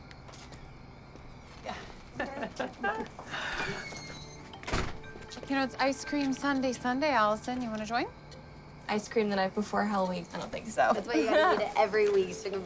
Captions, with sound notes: [light chuckling] - You know, it's Ice Cream Sundae Sunday, Allison. You wanna join? - Ice cream the night before Hell Week? I don't think so. - That's why you gotta eat it every week